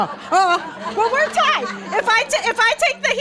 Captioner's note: audience laughing